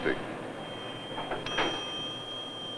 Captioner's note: bell ringing